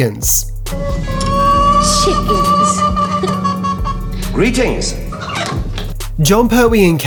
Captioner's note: chickens cluck in a cage